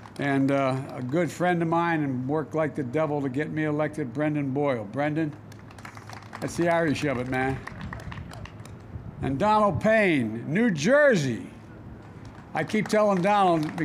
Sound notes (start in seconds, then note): 0.0 applause; 5.3 applause; 12.0 applause